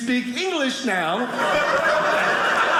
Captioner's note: audience laughing